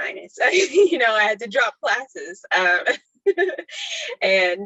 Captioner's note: laughs; laughter continues